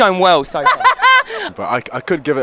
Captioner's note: laughing